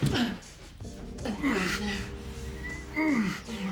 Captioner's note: grunting